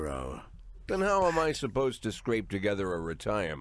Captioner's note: whispers